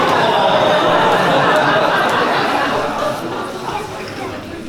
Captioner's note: laughter